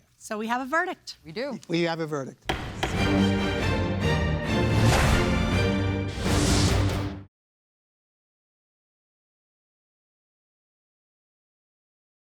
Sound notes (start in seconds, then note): 2.4 gavel bangs; 2.5 dramatic music